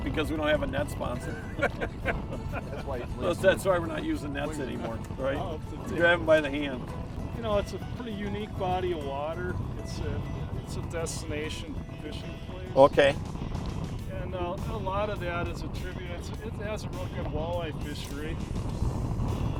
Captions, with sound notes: because we don't have a net sponsor. (laughing) That's why we're not using nets anymore. Grab them by the hand. - You know, it's a really unique body of water. It's the best nation for fishing. - Okay. - And a lot of that is a tribute. It has a really good walleye fish rig.